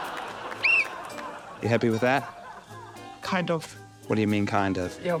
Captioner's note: audience laughs; whistle blows